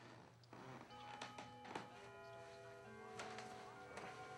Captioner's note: clock gongs